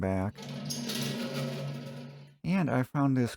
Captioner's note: stool rolling sounds